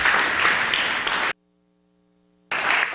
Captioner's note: applause